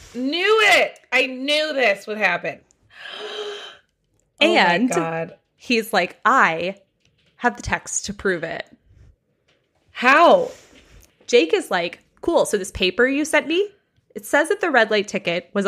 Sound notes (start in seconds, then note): 3.0 gasps